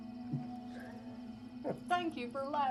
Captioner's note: Sam chuckles